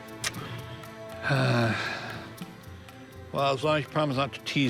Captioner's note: sighs